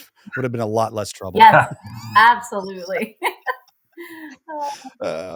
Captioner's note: all laughs